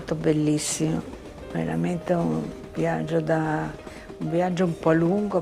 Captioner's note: speaking in foreign language